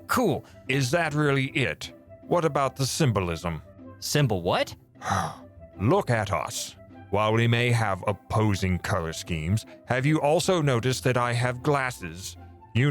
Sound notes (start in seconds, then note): 5.0 sigh